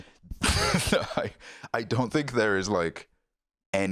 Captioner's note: laughs